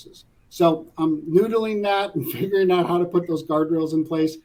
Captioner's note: laugh